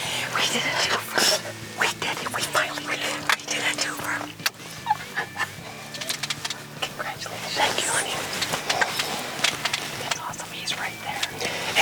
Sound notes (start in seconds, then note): 4.2 lips smack